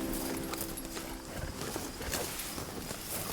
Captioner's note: cows chewing